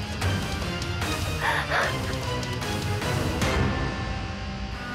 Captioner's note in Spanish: sollozos